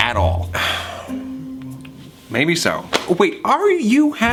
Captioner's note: sighs